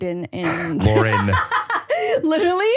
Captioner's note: laughs